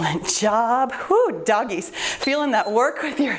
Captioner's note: timer beeps